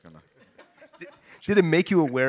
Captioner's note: all laugh